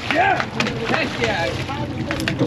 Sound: fish splashing

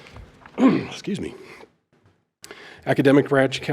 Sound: clears throat

